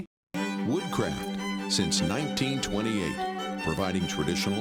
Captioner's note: voiceover